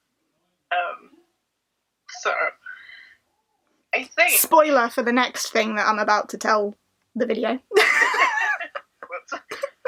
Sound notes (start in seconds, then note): 7.7 both laugh